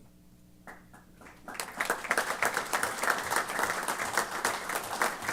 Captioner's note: applause